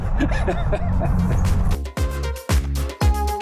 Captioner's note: laughter